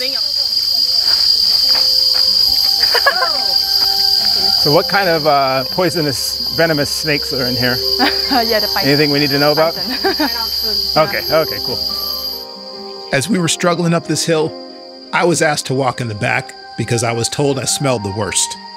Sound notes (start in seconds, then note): 0.2 insects chirping; 0.3 footsteps crunching; 2.5 people laughing; 8.0 laughs; 9.8 chuckles; 10.6 people chattering